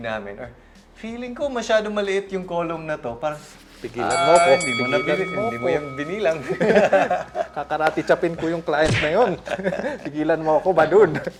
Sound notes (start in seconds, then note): 6.2 laughs